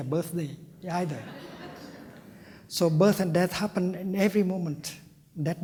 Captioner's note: laughter